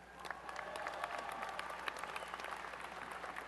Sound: applause and cheering

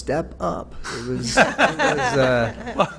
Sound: laughter

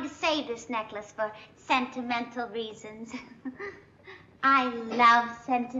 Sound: giggles

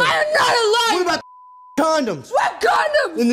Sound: beep

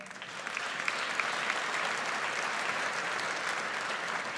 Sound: audience applauds

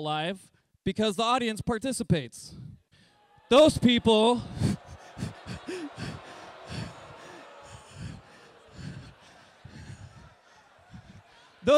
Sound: laughs

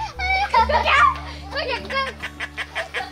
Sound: pipping

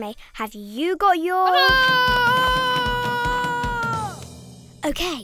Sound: Esme screaming

